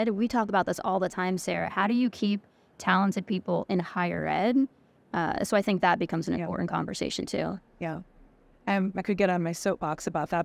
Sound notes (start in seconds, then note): none